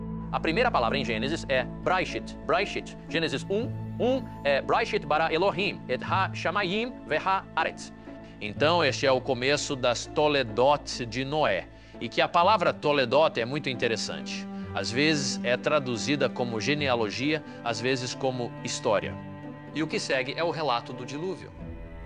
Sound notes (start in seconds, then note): 3.3 speaks Hebrew; 6.5 speaks Hebrew